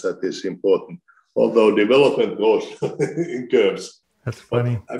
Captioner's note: laughs